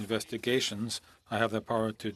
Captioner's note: speaking FRENCH